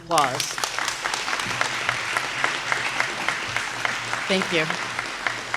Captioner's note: applause